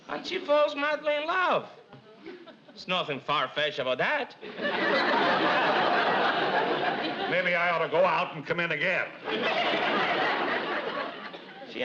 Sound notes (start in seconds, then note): 4.4 audience laughs